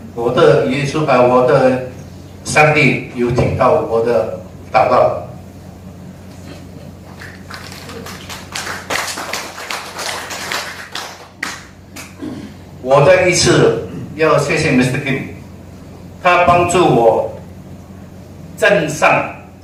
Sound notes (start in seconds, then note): 7.0 claps